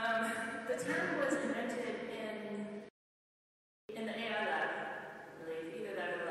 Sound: chuckle

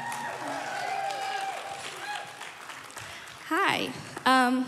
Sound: crowd cheering and applauding

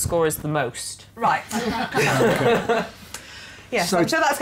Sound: laughter

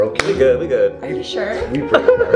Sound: everyone laughs

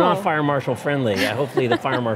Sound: laughs

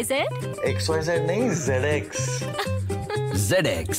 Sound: laughs

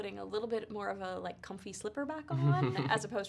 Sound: chuckles

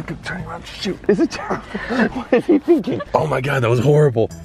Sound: laughing

